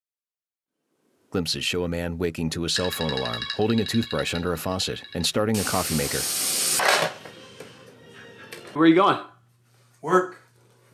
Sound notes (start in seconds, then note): 2.7 alarm ringing